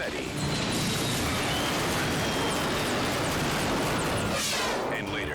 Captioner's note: helicopter crashing